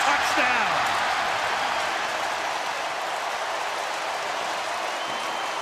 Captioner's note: cheering